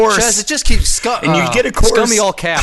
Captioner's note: groans